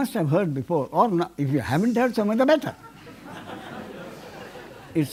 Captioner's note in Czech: smích